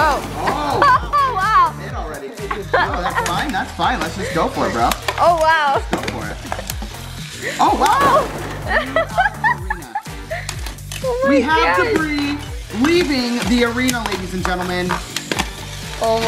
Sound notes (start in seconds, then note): 0.5 shouts of excitement; 7.4 shouting and laughing